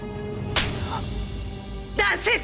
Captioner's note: Tokat voice